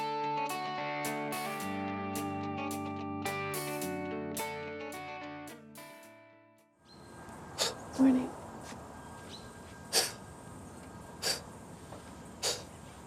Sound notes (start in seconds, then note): 0.0 country music; 9.8 sniffs; 10.0 exhaling loudly